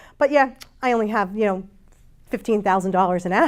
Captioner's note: none